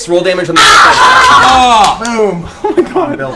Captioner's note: cheering